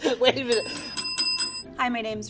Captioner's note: bell rings